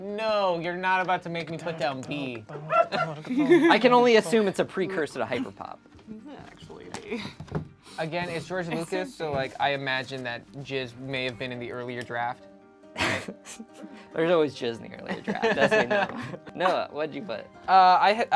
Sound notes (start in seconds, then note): 13.0 laughs; 15.2 laughs